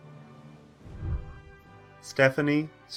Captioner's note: whooshing